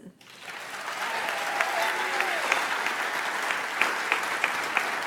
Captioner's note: audience applauds